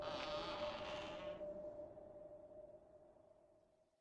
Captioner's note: door creaking